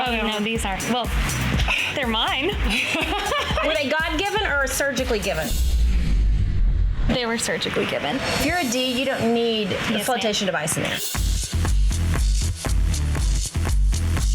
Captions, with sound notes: - No, these are, well, they're mine. (laughing) - Were they God given or surgically given? - They were surgically given. - You're a D, you don't need a flotation device in there. (energetic music)